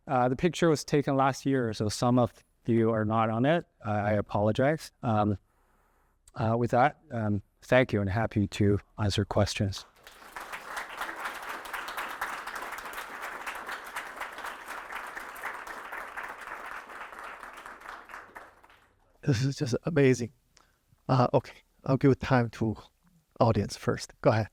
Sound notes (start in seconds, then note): 9.8 applause